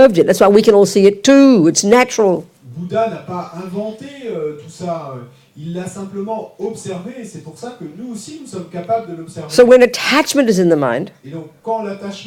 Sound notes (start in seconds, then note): 3.1 French